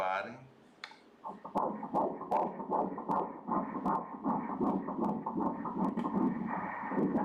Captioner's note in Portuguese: batimentos cardíacos